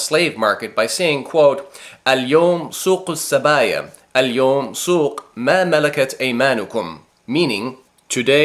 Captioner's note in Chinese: 说阿拉伯语